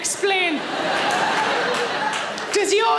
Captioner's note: audience laughing